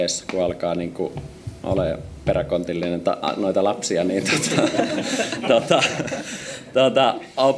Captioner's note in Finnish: naurua